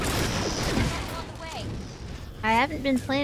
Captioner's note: gun shots